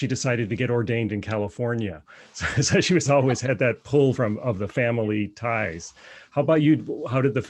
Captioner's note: laughter